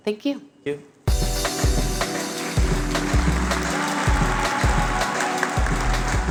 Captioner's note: applause